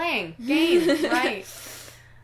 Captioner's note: laughter